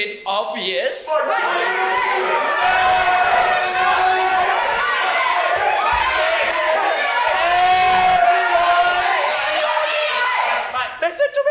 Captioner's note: shouting